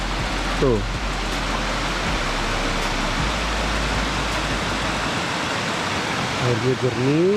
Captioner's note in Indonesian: suara air